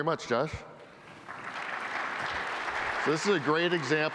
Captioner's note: applause